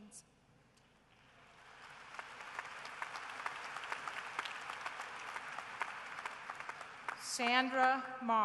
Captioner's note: applause